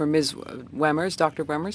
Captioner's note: speaking French